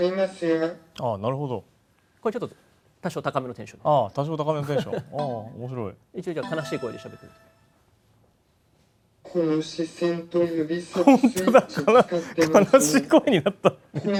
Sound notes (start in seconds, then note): 9.1 sounding sad